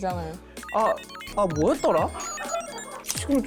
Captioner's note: glitched-out effort sound effect